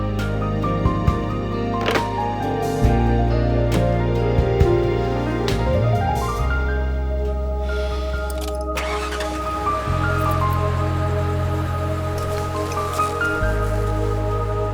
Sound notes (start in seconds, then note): 1.8 phone clicking; 7.4 sighing; 9.2 engine revving